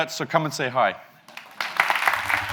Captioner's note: audience applauds; fast electronic music